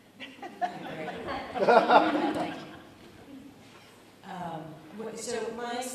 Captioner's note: audience laughs